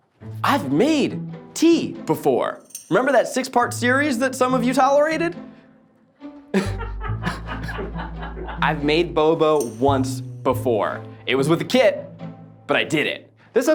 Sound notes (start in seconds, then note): 0.0 orchestra music begins; 6.5 laughter